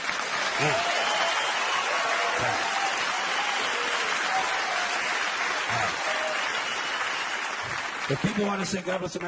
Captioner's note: audience applauding